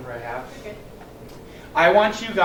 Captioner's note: woman's Voice